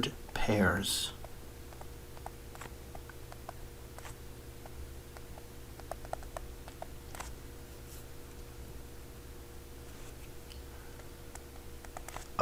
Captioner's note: writing Sounds